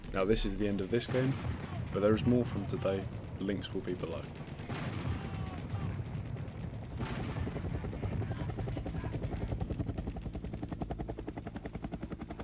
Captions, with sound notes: Now, this is the end of this game, but there is more from today, links will eventually be below. *fading helicopter*